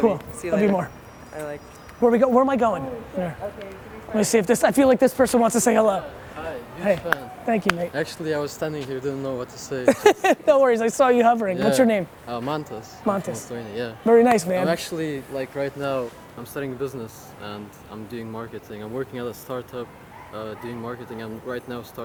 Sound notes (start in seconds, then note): 9.8 laughs